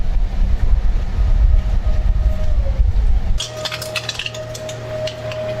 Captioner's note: sound Of Machine